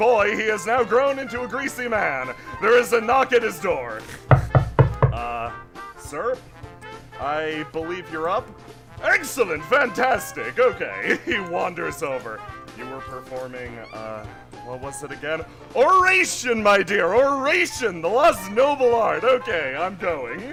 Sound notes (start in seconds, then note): 4.3 knocking